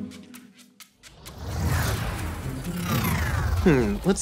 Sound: effects whooshing

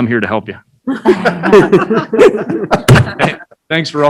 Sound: laughing

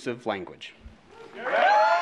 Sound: applause

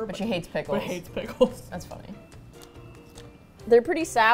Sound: laughs

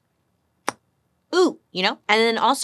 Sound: smacking her lips

